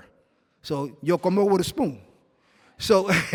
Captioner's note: non-english speech